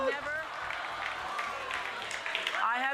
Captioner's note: applause